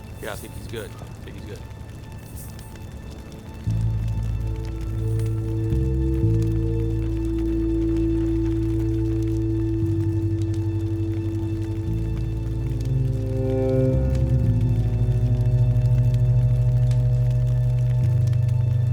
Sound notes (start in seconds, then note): 4.1 fire crackling; 4.1 ominous music